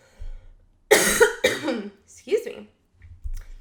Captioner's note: coughs